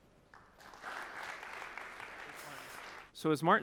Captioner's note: applause